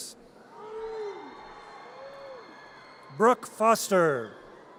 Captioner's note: audience cheers